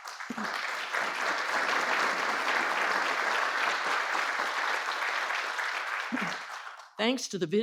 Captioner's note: applause